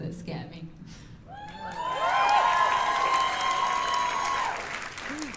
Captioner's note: cheers and applause